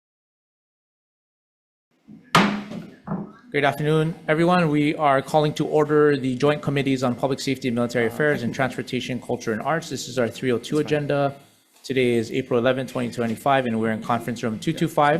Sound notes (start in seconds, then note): 2.3 gavel slams